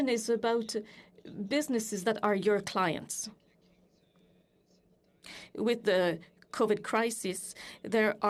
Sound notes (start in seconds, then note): 0.6 speaking FRENCH